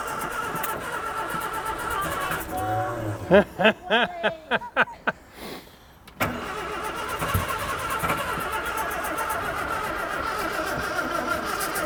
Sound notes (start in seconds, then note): 2.5 laughs; 5.7 engine rumbling